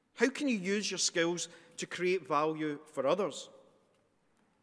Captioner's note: none